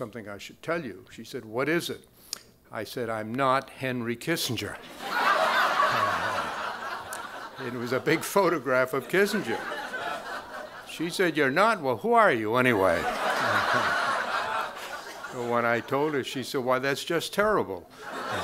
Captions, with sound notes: She said, "What is it?" I said, "I'm not Henry Kissinger." (crowd laughing) It was a big photograph of Kissinger. She said, "You're not? "Well, who are you anyway?" When I told her, she said, "Why, that's just terrible."